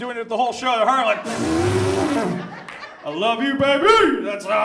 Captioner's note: blows raspberry